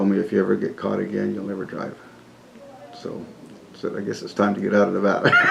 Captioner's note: laughs